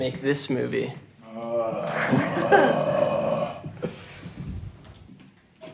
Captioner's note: Winslow groaning